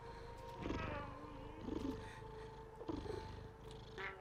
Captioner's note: Giree purrs